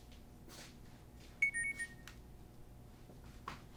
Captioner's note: phone Beeps